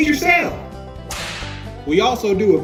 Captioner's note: whip cracks